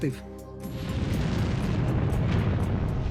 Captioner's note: blasting sound